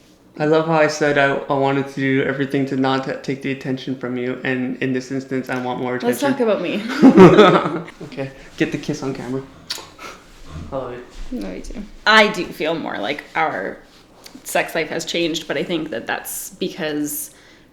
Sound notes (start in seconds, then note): 6.8 laughs